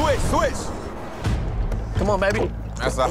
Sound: dramatic music; gulping

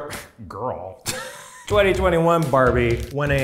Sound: laughs

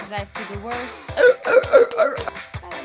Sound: barks and claps like a seal

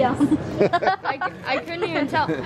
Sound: laughs

